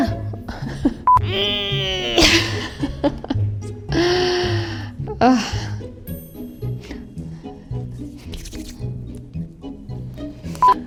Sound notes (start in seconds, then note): 1.5 straining; 3.2 laughs; 5.7 playful music